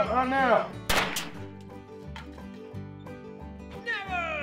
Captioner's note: gunshots